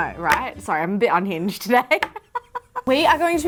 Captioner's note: chuckles